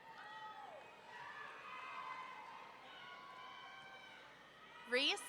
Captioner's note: excited shoutings continuing